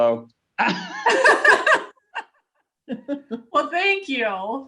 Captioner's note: laughing